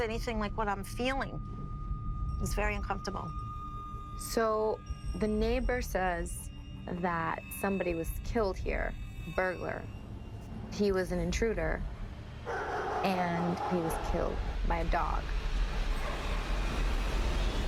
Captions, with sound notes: anything like what I'm feeling. It's very uncomfortable. So the neighbor says that somebody was killed here, a burglar. He was an intruder-- [DOG BARKING] --and he was killed by a dog.